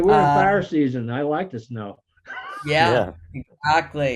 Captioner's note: laughs